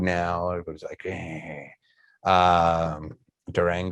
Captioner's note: growls